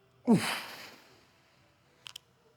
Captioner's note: exhales